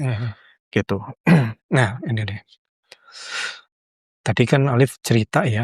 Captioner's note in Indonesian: berdehem; menghela napas